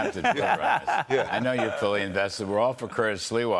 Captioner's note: laughter